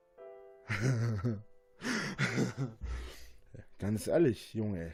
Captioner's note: Rainer laughs